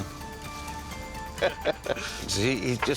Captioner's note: laughing